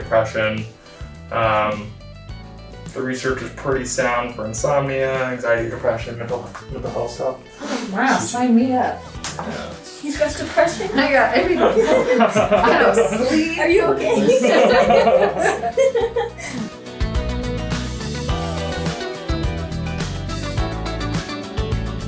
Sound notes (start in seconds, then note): 14.7 all laughing; 16.5 bright upbeat music